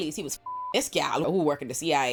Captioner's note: beep